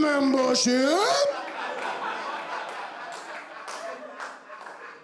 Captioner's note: clapping, laughing